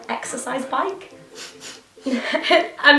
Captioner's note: laughs